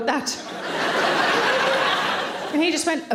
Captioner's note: audience laughing